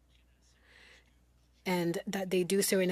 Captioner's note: speaking French